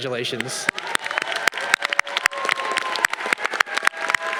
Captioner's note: audience applause